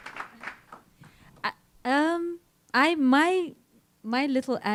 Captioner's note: applause